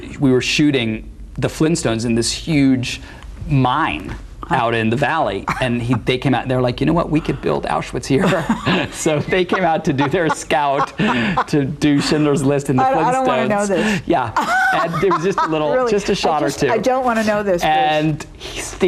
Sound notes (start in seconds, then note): 8.2 laughs